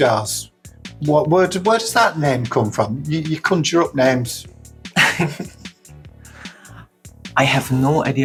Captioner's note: laughs